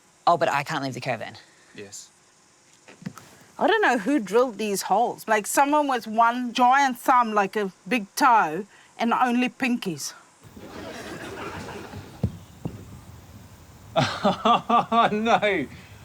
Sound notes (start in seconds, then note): 10.6 laughter